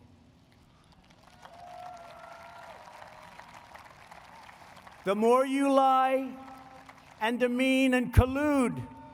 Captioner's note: applause